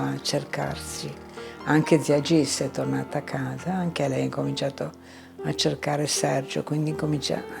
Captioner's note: continues speaking in foreign language